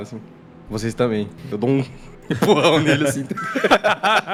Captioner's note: laughter